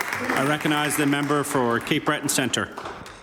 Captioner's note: some Applause